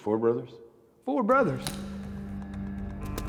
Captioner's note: twig snaps